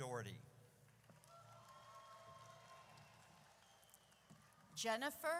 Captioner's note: audience cheers